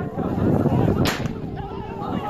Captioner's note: gunfire